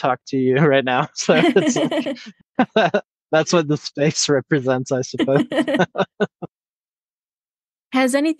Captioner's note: laugh